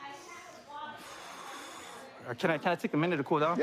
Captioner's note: exhales